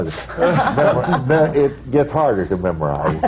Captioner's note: laughter; laughter